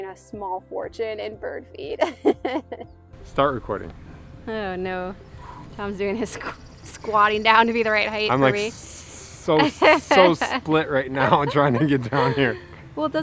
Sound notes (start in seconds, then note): 2.5 chuckles; 5.2 man exhales